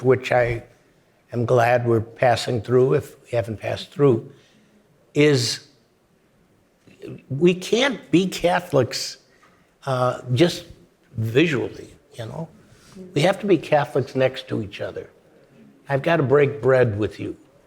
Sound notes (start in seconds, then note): none